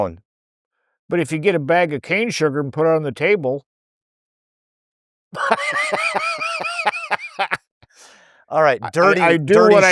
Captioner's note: laughing